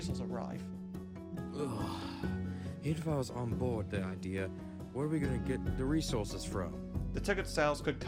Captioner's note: groans